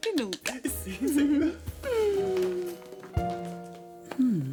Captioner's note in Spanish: Aplausos